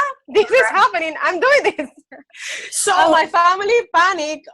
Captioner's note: laughs